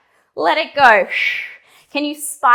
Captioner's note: breathing sharply